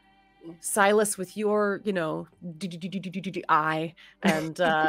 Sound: makes jabbing sounds

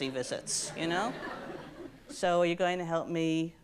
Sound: audience laughs

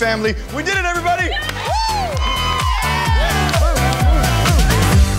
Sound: cheering

